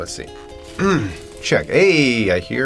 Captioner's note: clears throat